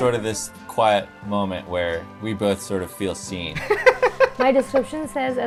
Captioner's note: laughter